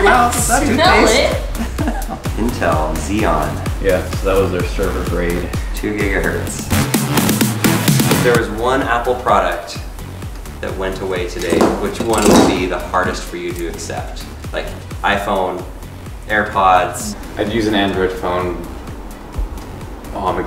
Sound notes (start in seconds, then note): 1.5 laughs; 7.0 upbeat, rhythmic music